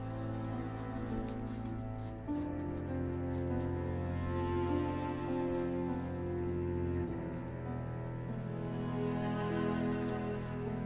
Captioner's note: pencil scribbling on paper